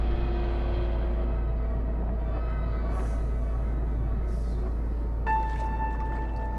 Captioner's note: ships Creaking; water Lapping